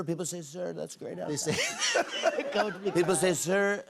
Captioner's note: laughter